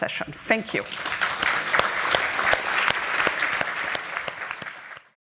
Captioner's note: applause